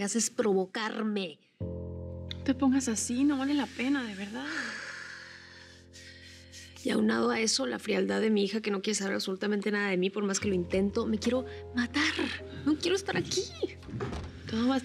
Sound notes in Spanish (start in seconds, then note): 3.6 exhala